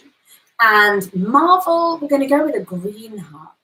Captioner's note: none